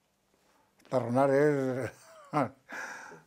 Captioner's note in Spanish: ríe